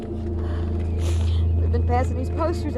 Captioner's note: crying